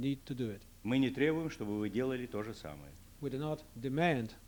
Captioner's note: non-english speech